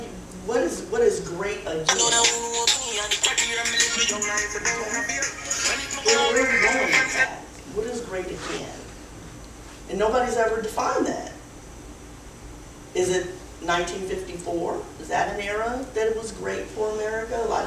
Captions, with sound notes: - And what is "great again"? (phone rings) What is "great again"? Nobody's ever defined that. Is it 1954? Is that an era that was great for America?